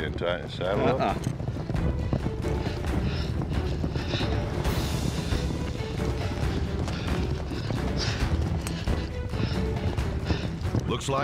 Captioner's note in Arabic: ضربات حوافر